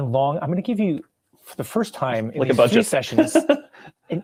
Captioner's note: laughing